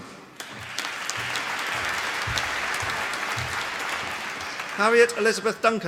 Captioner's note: applause